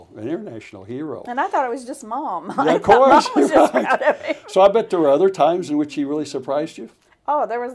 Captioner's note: laughter